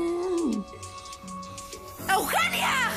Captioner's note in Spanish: Tararea